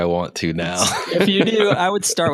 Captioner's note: laughing